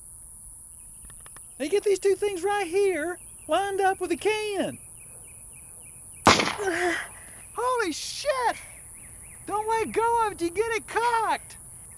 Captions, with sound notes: Now, you get these two things right here lined up with the can. [gunshot] Holy shit! Don't let go of it when you got it cocked.